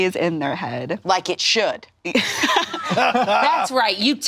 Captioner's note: all laughing